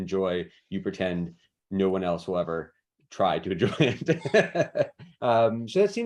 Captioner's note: laughs